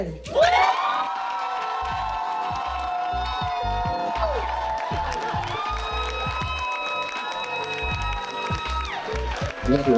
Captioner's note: audience cheering